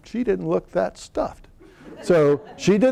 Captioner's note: laughter